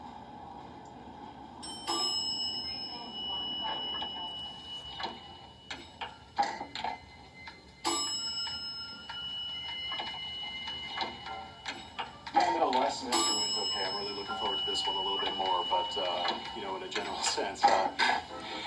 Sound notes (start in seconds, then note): 1.6 elevator ding; 10.9 man talking on phone